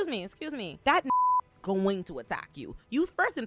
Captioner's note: beep